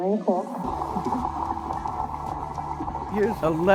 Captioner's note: audience applauding